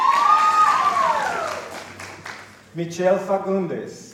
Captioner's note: cheering